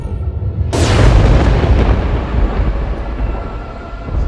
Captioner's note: thunder rumbling